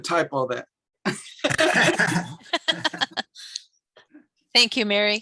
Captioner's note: laughing